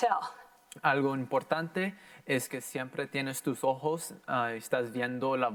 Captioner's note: in foreign language